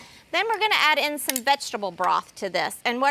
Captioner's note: metal clanging